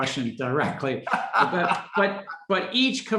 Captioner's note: laughing